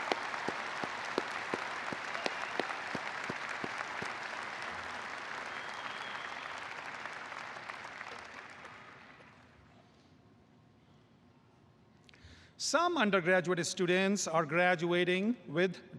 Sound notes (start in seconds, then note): 2.4 applause